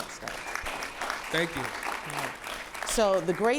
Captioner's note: applause